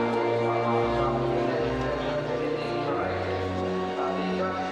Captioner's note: race announcer rambling